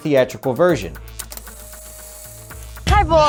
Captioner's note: tape whirring